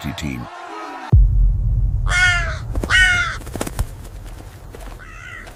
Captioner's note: screaming